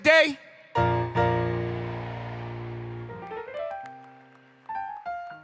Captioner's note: crowd